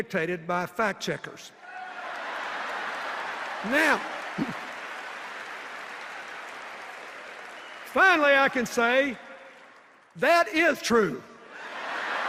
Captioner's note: laughter and applause